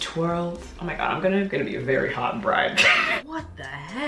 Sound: laughs

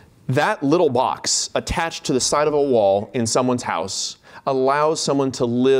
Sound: none

